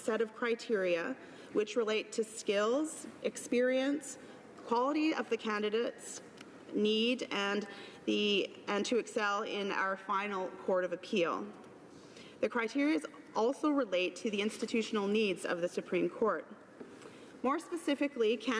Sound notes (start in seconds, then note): none